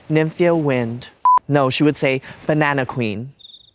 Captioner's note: scree beeps; crickets chirping